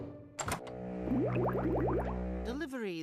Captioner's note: gurgling